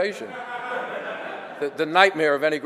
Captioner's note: audience laughter